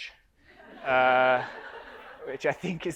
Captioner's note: audience laughs